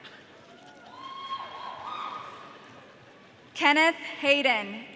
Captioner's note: audience cheering